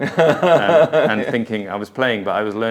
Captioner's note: laughs